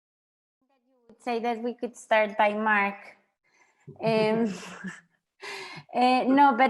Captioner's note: chuckles